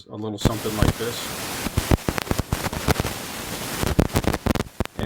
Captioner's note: annoying clicking and popping noise